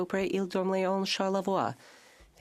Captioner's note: speaking French